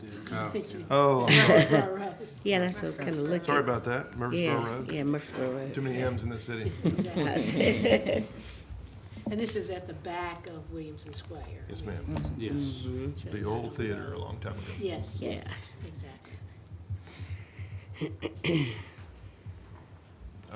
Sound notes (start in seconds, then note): 6.9 laughs